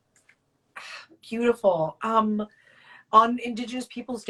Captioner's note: exhales